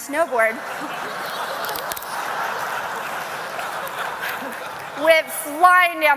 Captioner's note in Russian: Смех